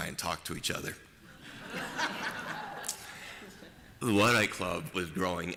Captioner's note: laughter